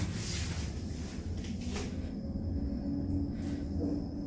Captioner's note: elevator fan Starting up